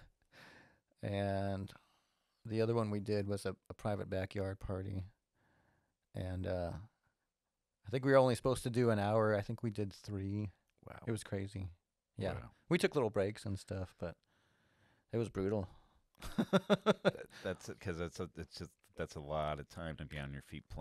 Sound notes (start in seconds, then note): 16.3 laughs